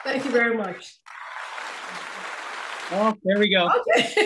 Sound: audience applauding; laughing

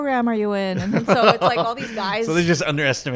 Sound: laughs

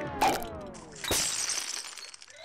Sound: shattering; cracking

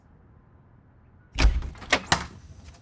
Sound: door opens

